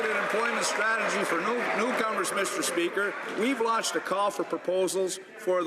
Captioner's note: some Applause